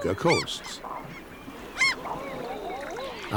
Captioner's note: birds squawking